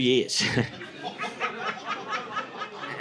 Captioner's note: audience laughing